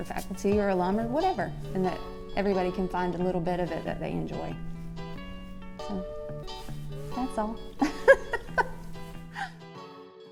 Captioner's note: laugh